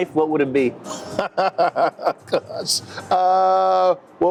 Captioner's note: laughing